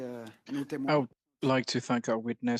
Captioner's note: speaking French